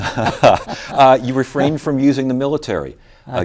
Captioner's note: both laugh